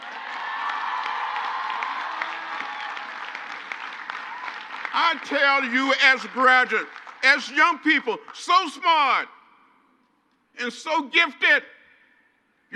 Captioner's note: crowd cheers